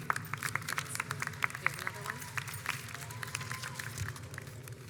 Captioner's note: audience applauds